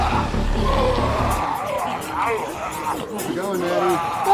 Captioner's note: ominous music; zombies growling